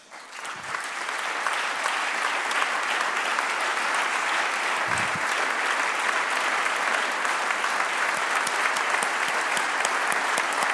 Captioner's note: applause